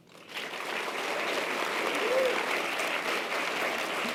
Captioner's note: audience applause